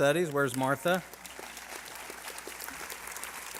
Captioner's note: applause